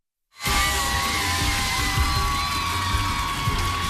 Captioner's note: cheers and applause